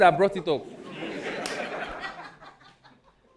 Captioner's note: audience laughing